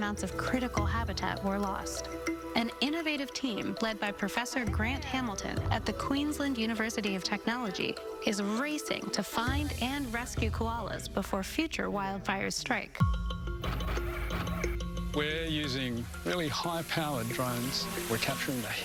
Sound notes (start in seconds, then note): 13.5 drone gears whirring